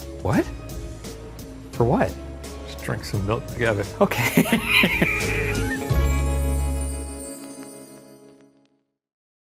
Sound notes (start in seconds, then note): 4.2 laughs